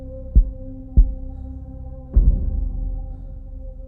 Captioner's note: heartbeat stops